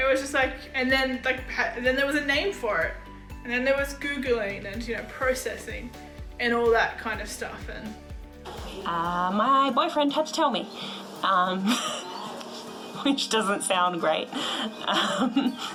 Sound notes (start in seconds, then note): 10.7 laughs